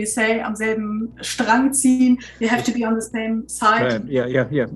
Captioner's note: foreign language